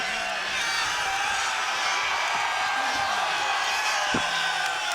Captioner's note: crowd cheers